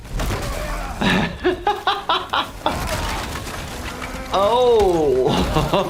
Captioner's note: laughing